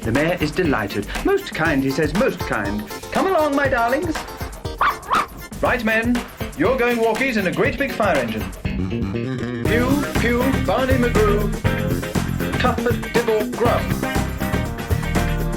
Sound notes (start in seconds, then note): 4.7 ruff-ruff!